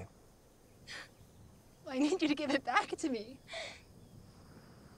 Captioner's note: sobs